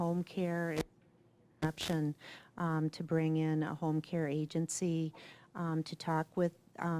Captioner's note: mic cuts out